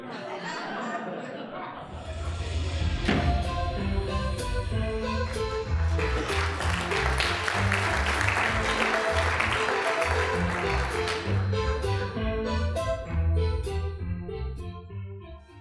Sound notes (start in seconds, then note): 0.0 audience laughing; 2.8 calliope music; 5.8 applause; 11.4 calliope music